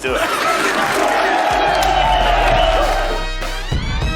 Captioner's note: people cheering